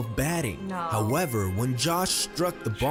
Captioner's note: voice-over